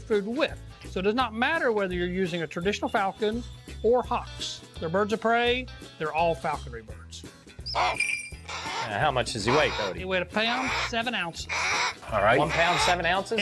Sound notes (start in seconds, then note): 7.6 hawk screeching